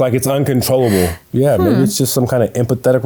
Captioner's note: laughing